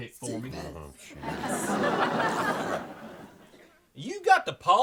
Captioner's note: Lulu speaks demonically; audience laughs